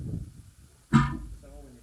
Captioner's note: whomp!